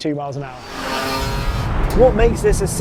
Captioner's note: engines revving